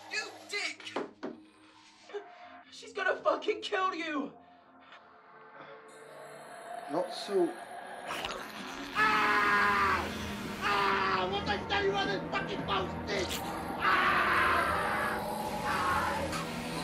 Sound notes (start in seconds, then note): 8.0 crunching; 8.9 yelling; 14.3 yelling